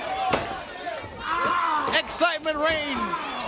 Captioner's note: crowd chatter